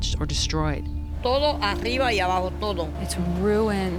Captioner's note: speaking Spanish